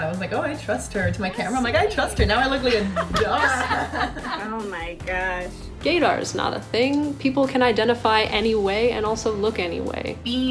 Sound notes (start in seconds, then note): 2.3 laughing